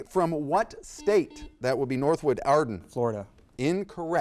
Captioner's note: buzzer beeps